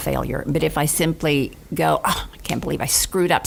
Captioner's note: sighs